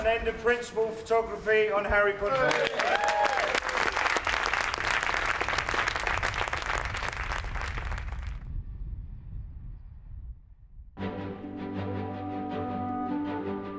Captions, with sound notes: ...and end of principal photography on Harry Potter. [APPLAUSE]